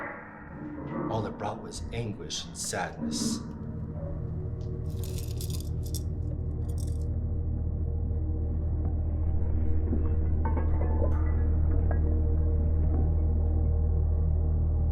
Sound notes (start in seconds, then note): 4.8 keys clacking; 5.9 ominous music